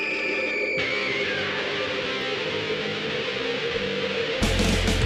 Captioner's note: sound of nuclear blast and rock music